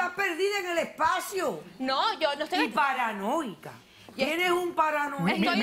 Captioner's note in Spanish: Risas